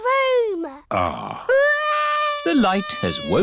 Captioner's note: crying